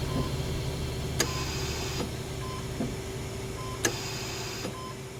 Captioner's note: machines beeping